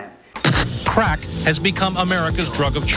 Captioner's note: voiceover